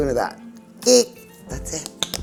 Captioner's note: squeaks